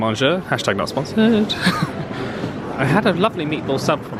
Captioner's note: laughs